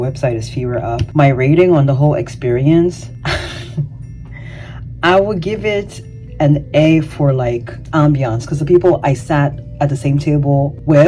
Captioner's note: chuckles